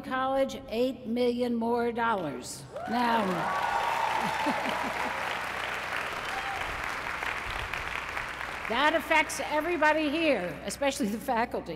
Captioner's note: applause